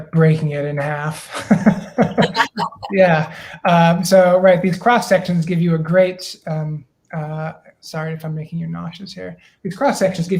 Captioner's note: laughter